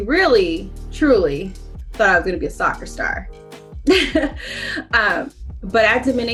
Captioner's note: chuckles softly